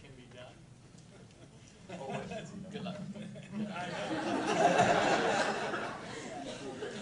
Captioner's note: laughing